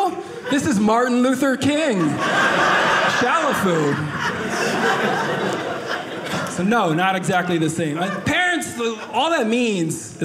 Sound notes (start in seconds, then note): 3.7 audience laughing